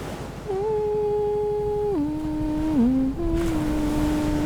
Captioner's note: gentle humming